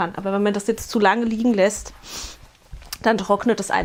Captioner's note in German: schnauben